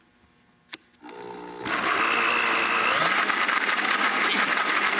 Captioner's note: blender whirring